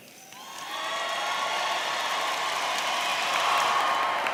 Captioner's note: audience cheering